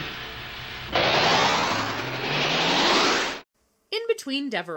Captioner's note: synthesizer whooshes